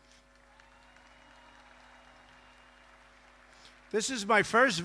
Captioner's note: applause